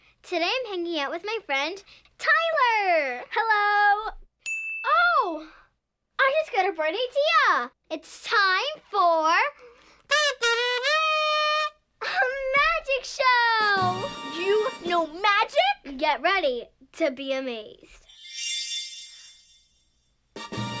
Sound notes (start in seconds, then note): 4.4 ding; 14.2 musical florish; 18.0 chimes